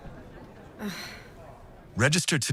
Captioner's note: deep sigh